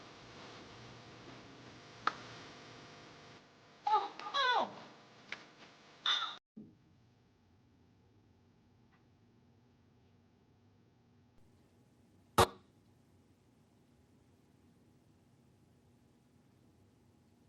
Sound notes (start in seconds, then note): 6.6 silence